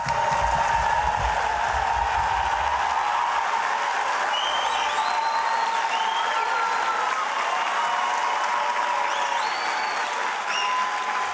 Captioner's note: applause